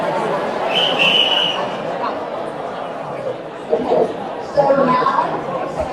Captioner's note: whistling